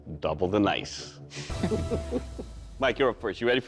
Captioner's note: laughter